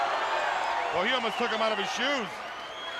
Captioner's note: crowd cheering